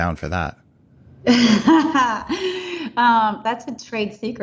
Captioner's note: laughs